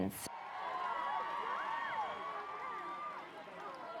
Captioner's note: crowd cheering